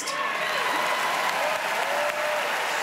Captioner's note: audience cheering and applauding